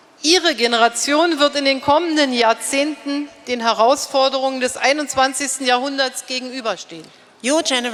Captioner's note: speaking in German